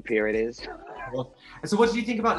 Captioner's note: chuckling